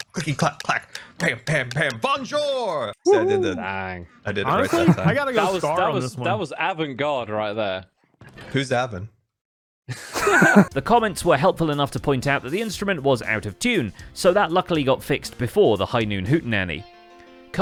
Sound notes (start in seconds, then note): 9.9 group laughs